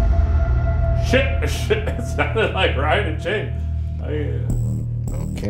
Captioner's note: chuckling